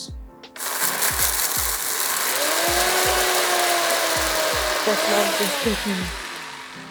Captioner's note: spice grinder whirring